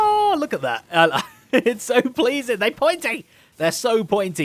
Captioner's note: laughs